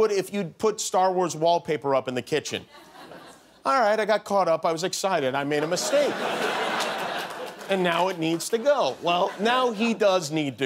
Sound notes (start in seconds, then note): 8.6 laughter